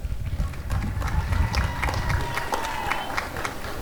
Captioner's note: applause and cheering